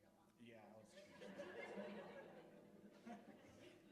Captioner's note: laughter